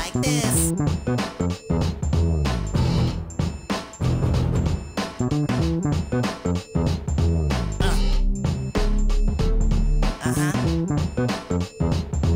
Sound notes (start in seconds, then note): 7.8 parappa moans